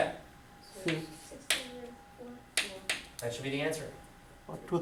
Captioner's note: students speaking softly